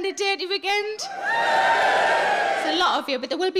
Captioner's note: audience cheering